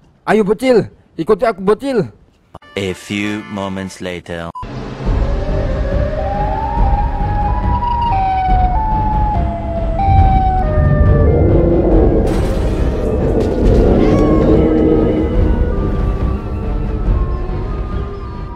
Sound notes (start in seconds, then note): 4.4 Sirenhead's noises